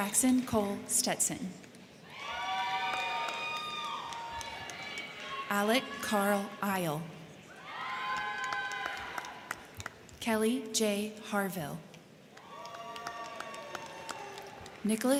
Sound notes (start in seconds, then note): 2.0 crowd cheering; 2.3 crowd clapping; 7.4 crowd cheering; 7.7 crowd clapping; 12.3 crowd clapping; 12.3 crowd cheering